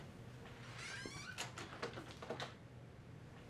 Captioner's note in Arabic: صرير الباب مغلق